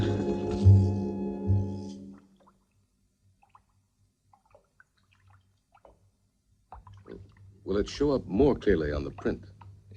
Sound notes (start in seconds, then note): 4.2 water sloshing